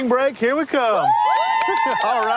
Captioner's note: cheering